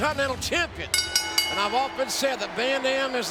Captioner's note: bell ringing